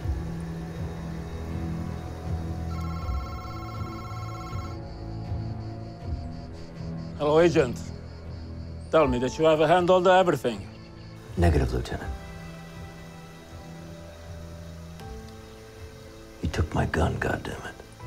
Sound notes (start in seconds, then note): 2.6 phone rings